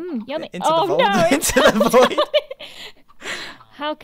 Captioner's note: laughs